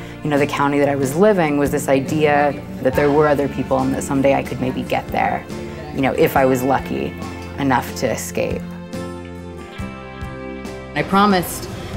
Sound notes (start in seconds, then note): 5.9 voice over herself